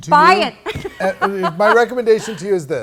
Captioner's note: laughs